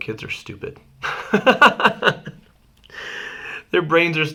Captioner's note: laughing